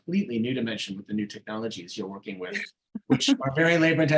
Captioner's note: chuckling